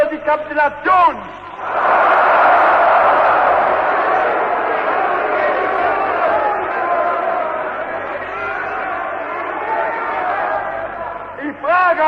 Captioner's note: booing, Screams: "Never!"